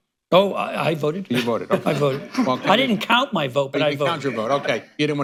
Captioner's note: laughter